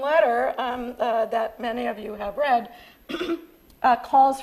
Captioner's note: coughs